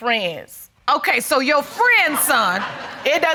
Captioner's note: audience laughing